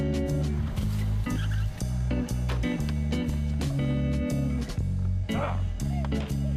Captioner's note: jazz music playing; tyres screeching